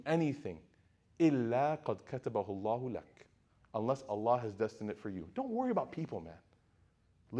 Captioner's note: speaking Arabic